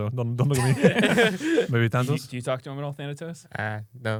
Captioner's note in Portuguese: risos; risos